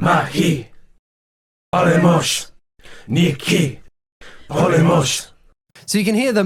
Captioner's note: crowd chanting Greek in recording